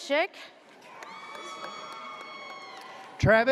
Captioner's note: audience cheers